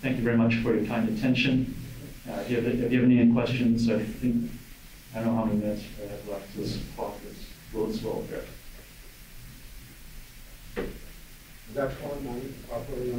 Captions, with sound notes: And thank you very much for your kind attention. If you have any end questions, I think... I don't know how many minutes... - (mumbling quietly)